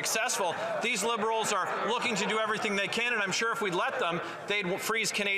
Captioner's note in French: voix de l'interprète